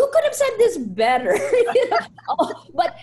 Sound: laughter

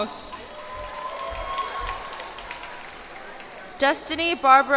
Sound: cheers and applause

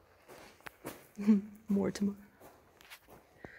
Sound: chuckles

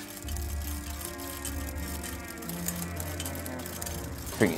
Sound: metal grinding sound

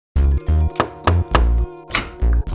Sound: knocking; door opens

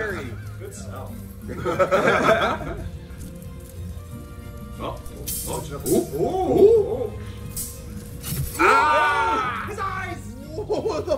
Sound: laugh

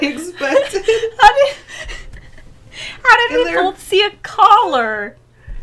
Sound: through laughter

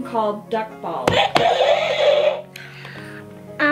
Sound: buzzer sounds

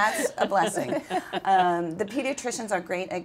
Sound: laughing

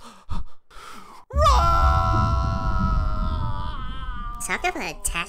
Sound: shouting

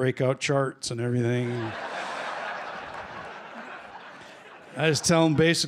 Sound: laughter

